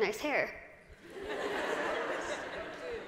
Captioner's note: laughter